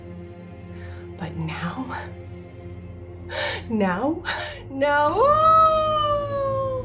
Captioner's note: howls